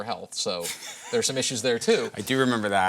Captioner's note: laughter